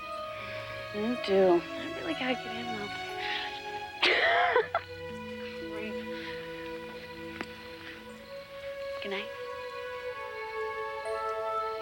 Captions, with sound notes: - You do. I really gotta get in though. (Karen laughs) Goodnight.